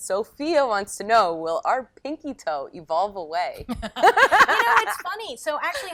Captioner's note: laughs